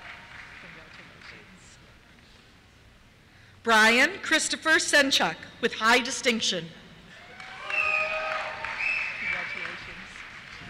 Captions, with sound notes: Congratulations. Bryan Christopher Senchuk, with High Distinction. (cheers) Congratulations.